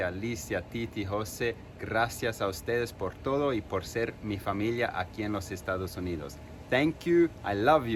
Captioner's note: non-english speech